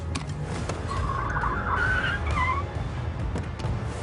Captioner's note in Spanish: Chasquido de llantas